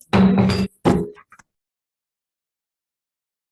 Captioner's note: gavel bangs